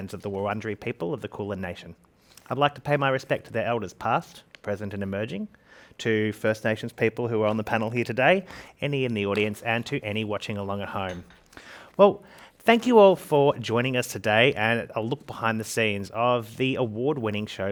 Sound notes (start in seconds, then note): none